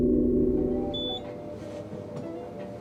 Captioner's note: keypad beeping